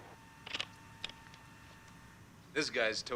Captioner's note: slide projector clicking